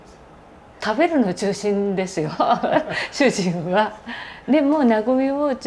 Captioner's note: laugh